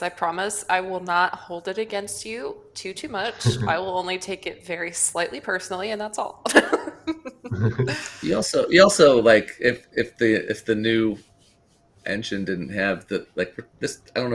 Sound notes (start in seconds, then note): 6.5 laughs